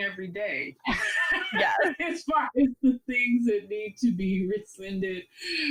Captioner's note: all laugh